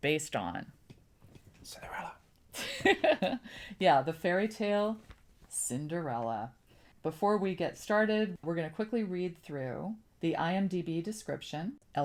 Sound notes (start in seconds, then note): 2.1 whispers; 3.9 laughs